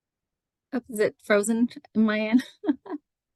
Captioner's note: chuckles